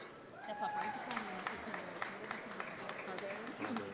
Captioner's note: audience applauds